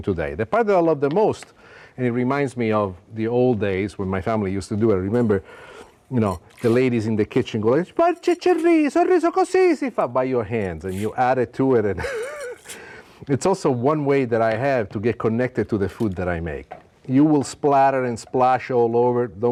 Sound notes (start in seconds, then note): 7.8 speaking Italian; 12.0 laughs